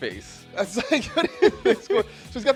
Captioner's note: laughs